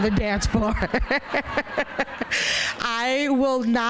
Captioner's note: laughter